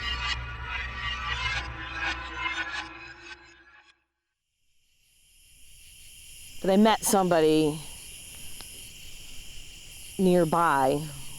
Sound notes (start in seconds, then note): 0.0 eerie music; 5.0 insects chittering